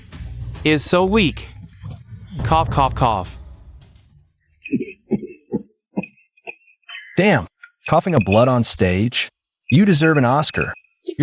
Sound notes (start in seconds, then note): 4.6 cough cough cough